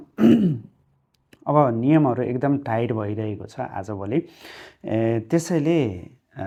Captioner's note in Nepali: घाँटी सफा गरेको आवाज